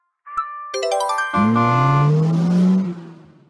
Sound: confirmation sound; horn and acceleration

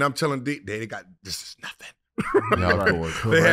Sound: laughing

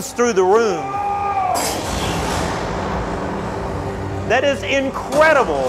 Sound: person yells

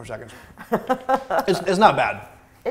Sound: laughing

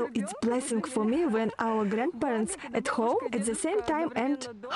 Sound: laugh

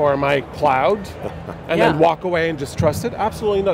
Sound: laughs

